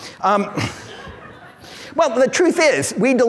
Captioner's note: audience laughs